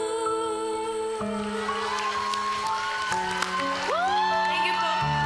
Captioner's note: cheering, applause